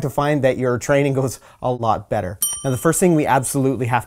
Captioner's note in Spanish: campana